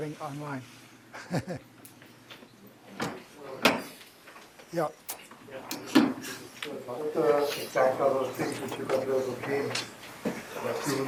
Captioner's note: laughter